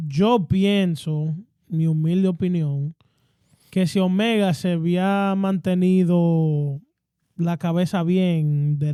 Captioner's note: speaking In Foreign Language